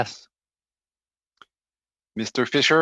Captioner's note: speaking French